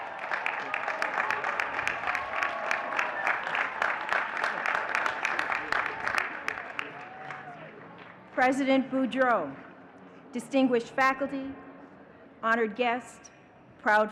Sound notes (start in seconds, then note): 0.0 audience cheering and clapping